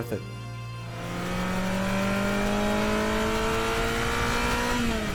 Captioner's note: car engine revving